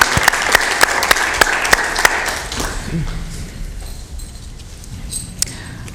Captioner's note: applause